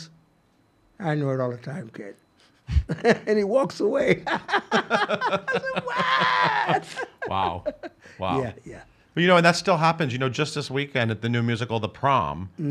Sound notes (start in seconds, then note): 4.2 laughs